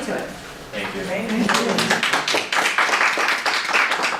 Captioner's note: applause